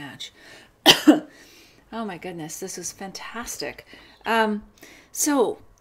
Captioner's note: coughs